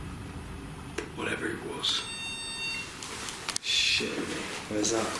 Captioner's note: beeping